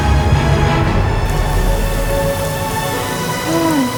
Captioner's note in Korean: 치이이-이익